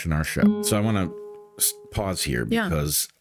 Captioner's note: gong